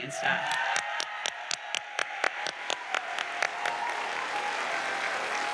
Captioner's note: audience cheers and applauds